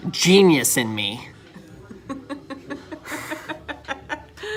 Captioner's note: laughing